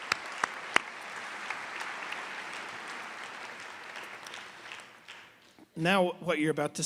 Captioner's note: applause